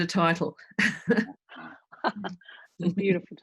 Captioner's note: laughter